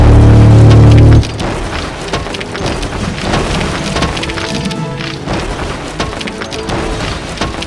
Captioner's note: machine rumbling; steps thudding